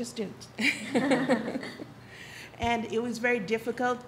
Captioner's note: audience laughs